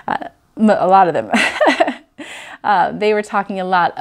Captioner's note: laughs